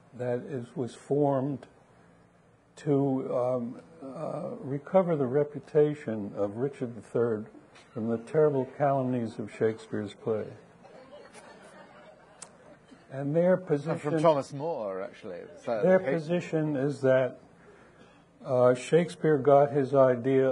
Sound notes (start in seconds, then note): 10.9 audience laughing